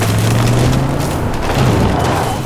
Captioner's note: horn honking